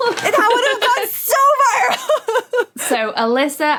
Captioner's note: laughs